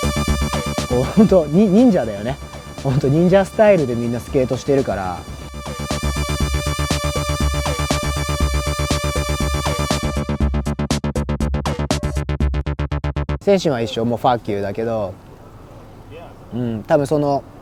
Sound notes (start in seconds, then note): 0.9 speaking in foreign language; 5.8 upbeat music; 13.4 speaking in foreign language